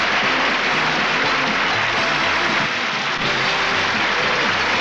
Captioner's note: audience applauds